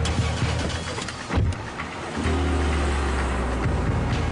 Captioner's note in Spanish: sonido del motor